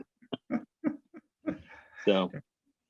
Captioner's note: laughs; both laughing